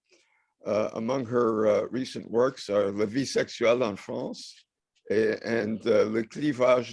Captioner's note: french